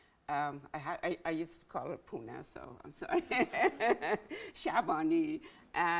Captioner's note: laughs